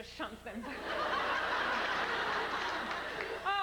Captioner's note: laughter